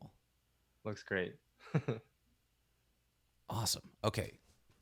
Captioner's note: chuckles